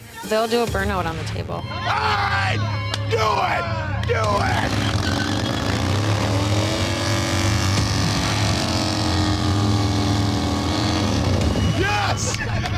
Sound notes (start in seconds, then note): 1.8 yells; 4.2 engine revving